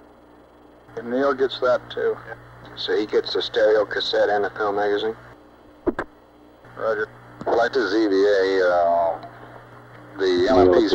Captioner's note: mission Control Audio